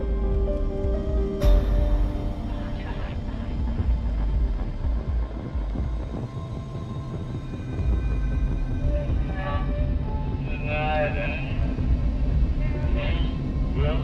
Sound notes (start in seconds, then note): 1.4 crash sound; 3.6 surreal sounds; 9.1 distorted voices